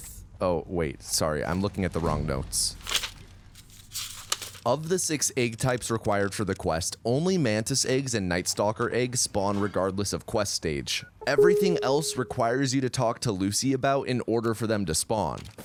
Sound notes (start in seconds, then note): 3.5 pages turning